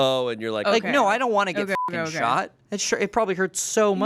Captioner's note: beep